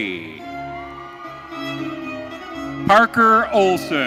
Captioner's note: audience cheering